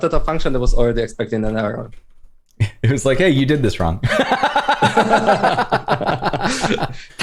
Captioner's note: laughter